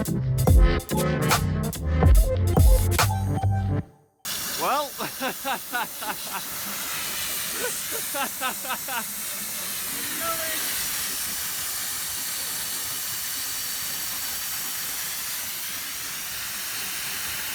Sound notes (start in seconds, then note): 7.5 laughing